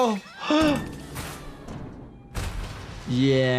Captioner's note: Lily Lovebraids screaming; gasping; objects thudding